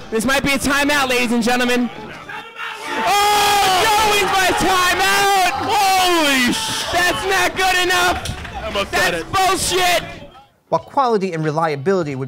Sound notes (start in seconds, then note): 2.6 yelling